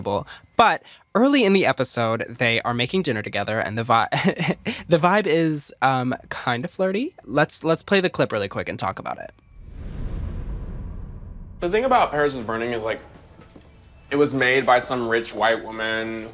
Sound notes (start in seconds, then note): 4.3 chuckles